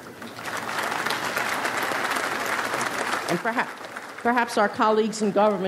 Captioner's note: audience applauds